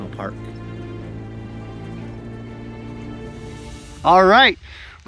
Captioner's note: engine rumbling continues